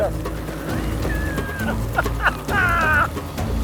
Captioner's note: maniacal laughter